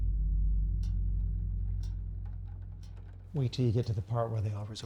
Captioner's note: clock ticking